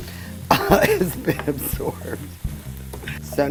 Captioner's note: laughs